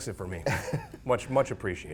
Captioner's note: laughs